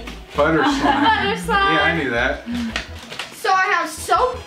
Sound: laughs

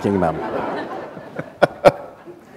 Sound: laughter

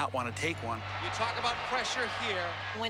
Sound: tv announcer

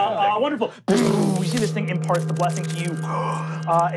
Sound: blasting; gasps

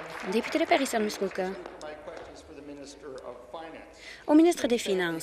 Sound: applause

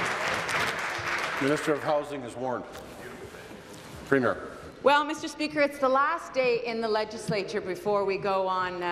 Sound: applause

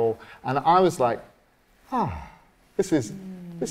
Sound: relaxed exhale

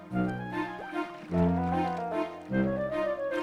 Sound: popping; splashing

